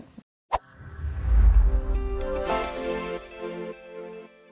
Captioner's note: logo whooshing